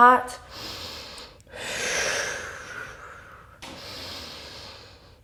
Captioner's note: deep breathing